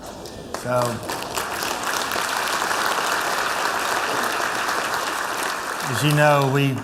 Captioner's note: applause